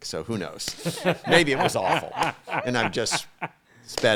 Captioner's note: all laughing